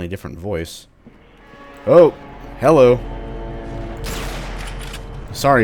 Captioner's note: various creepy radio sounds